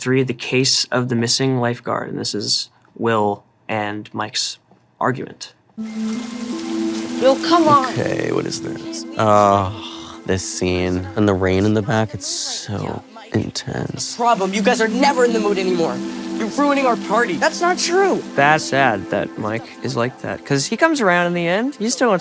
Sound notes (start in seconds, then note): 5.8 eerie music; 5.8 rain falling